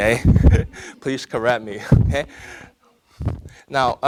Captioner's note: audience laughing; laughing